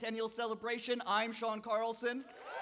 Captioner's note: cheers